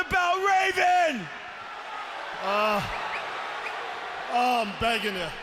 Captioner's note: audience cheering